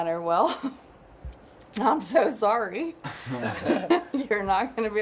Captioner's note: laughs